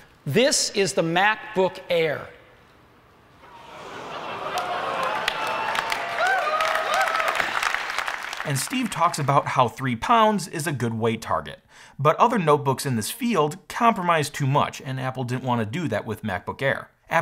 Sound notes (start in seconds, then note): 3.4 crowd cheering; 3.5 crowd applauding